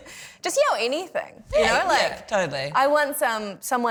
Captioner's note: laughs